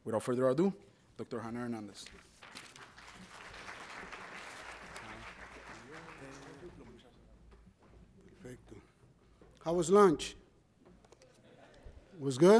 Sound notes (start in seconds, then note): 2.3 audience applauds